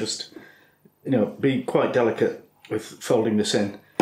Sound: none

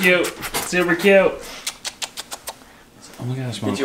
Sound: kissing

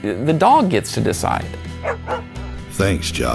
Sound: barking dog

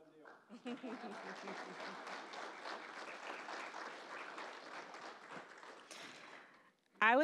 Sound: applause

